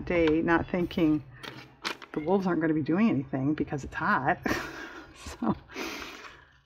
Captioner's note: laughs